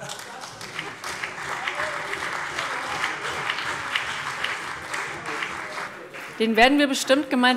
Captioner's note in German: Beifall CDU